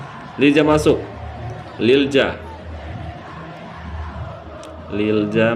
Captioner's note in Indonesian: berteriak